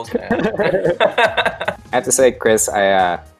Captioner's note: all chuckling